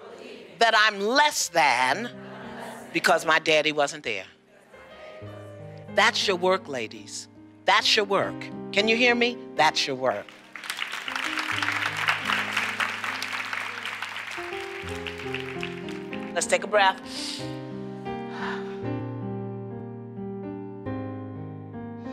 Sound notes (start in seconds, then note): 10.2 applause; 11.3 slow piano music; 18.2 exhales; 18.2 inhales